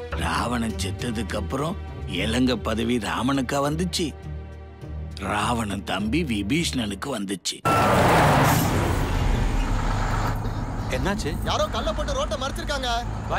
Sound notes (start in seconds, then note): 7.7 bus tire screeching